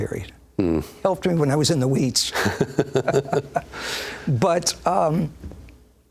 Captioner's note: laughs